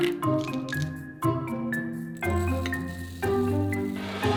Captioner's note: oatmeal pouring